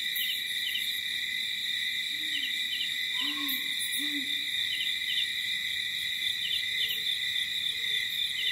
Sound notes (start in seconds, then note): 0.0 light jungle ambience